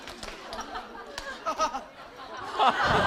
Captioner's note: haha